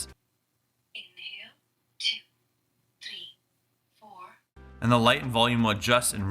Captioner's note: voiceover